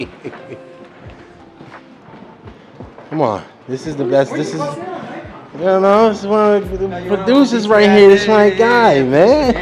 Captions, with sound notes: (laughing) Come on, this is the best. This is, you know what I'm saying? The producers right here, this my guy, man.